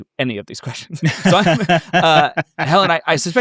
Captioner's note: laughing